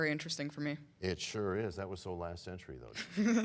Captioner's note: laughter